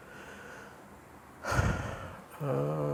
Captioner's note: sighing